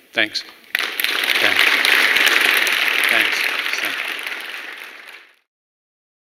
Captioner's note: applause